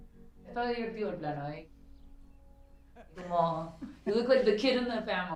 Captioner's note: speaking spanish